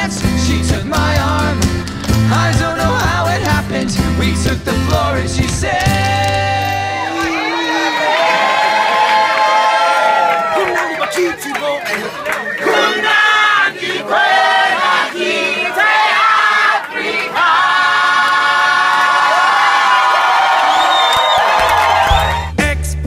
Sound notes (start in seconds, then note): 7.4 cheering; 10.7 singing in isiZulu; 20.6 cheering